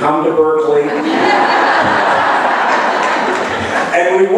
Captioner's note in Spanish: laughs